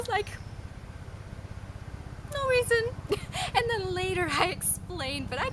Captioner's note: laughs